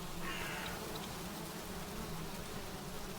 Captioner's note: flies buzzing